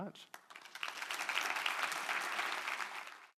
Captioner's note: applause